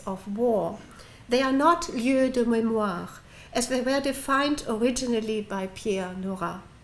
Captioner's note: french